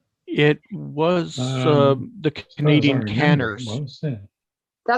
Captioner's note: mumbles